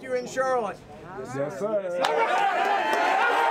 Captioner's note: cheering and applause